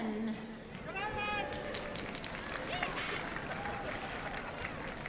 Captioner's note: applause